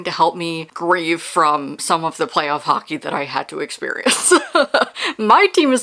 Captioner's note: laughing